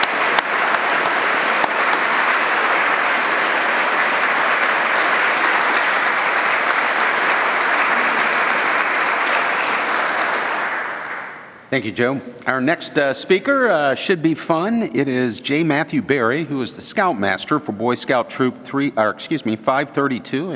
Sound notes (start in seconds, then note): 0.0 applause